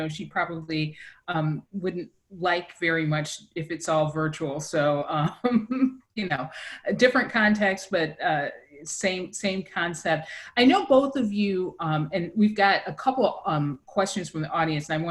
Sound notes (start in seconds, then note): 5.0 laughs